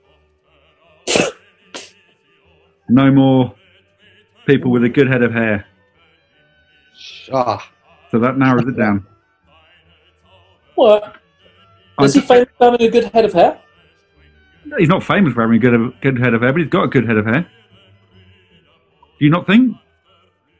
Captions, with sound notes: [SNORTS] No more people with a good head of hair. So that narrows it down. Well... was he famous for having a good head of hair? He's not famous for having a good head of hair but he's got a good head of hair. Do you not think?